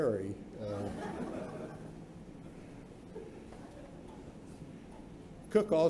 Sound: laughter

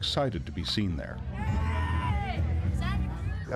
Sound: screaming

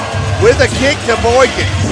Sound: crowd booing

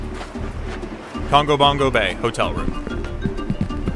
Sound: footsteps on wooden pier, then sand; footsteps on wooden floor

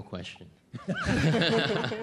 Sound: laughter

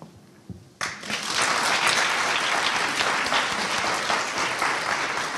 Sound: audience applauding

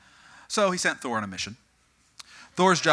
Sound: audience: Excited

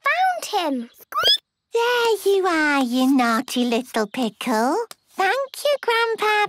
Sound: squeaking

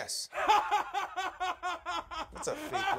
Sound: laughs

